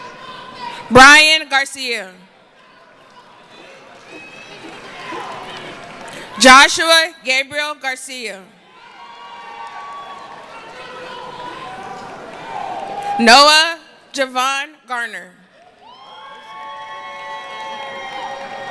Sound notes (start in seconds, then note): 11.2 cheering